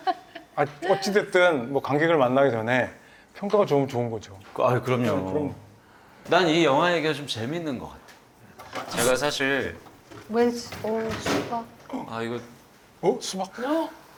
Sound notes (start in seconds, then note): 10.0 fumbling